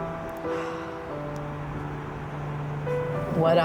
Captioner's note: sighs